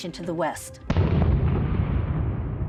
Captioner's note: booming